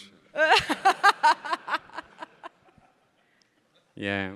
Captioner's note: everybody laughing